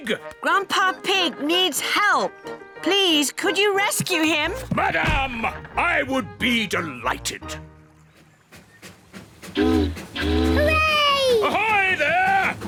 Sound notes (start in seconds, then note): 8.4 chugging; 9.6 boat horn honking